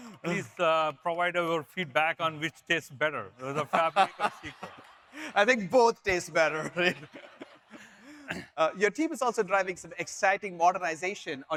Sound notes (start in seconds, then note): 3.4 audience laughs